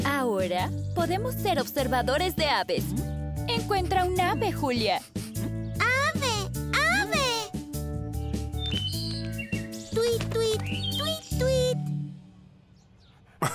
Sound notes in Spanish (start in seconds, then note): 8.5 trinar de aves